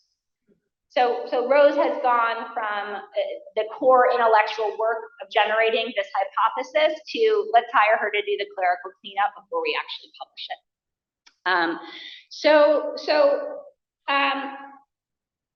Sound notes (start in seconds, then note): none